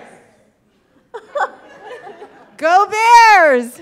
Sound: people laughing

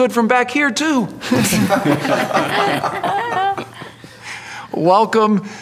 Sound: audience laughter

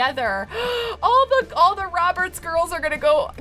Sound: gasp

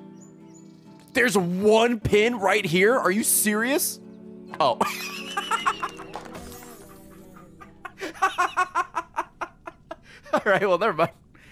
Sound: laughs

